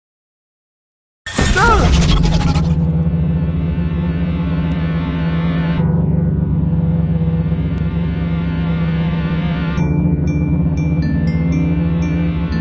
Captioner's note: ominous noises